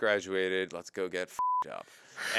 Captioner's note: beep